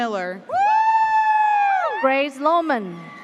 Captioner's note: classmates whooping